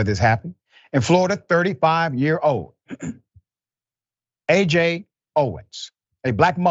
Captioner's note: cough